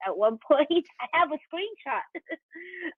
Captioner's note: chuckles